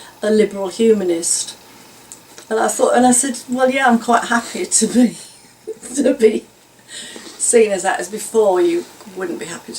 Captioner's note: laughs